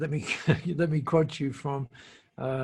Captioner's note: laughs